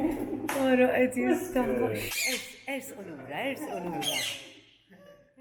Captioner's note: bird chirping